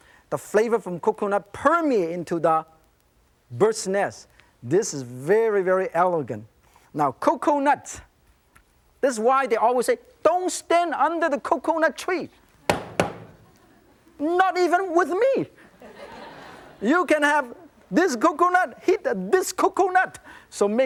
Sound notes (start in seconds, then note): 12.7 coconut slamming into table; 15.6 audience laughing